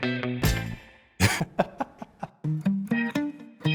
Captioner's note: laughs; light music